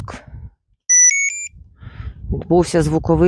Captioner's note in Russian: Звуковой сигнал